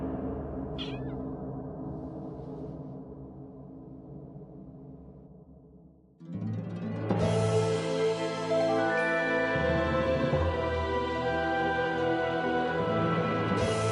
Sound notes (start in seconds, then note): 0.7 meow